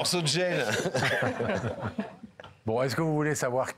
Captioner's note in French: Rires